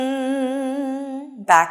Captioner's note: humming